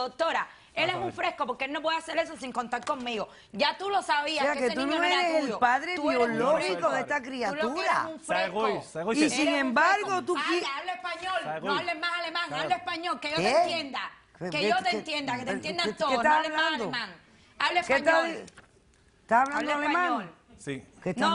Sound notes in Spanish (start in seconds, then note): 8.2 Hablan al unísono